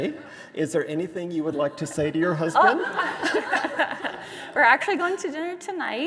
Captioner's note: both laughing